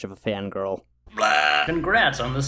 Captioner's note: burping